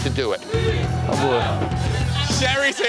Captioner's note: patrons yelling